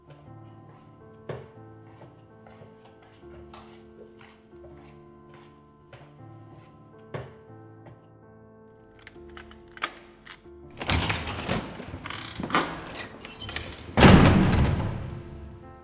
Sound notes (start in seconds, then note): 8.9 door opening and closing